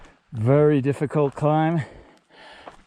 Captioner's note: breathing